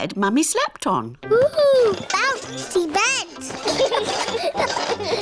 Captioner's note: children laugh